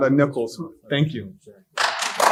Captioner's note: applause